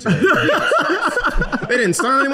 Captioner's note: laughing